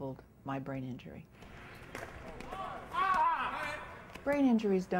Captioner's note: cheering and yelling